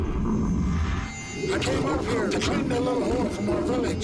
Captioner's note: growling